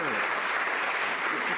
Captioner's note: some Applause